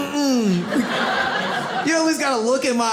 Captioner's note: audience laughs